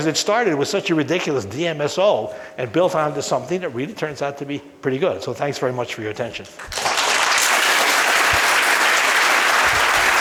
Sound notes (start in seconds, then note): 6.6 group clapping